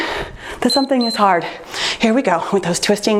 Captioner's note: timer beeps